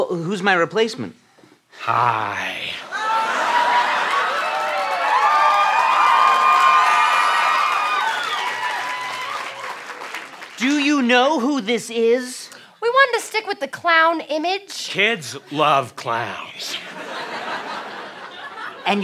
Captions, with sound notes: Who's my replacement? - Hi. [audience cheering] - Do you know who this is? - We wanted to stick with the clown image. - Kids love clowns.